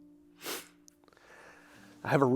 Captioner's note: sniffle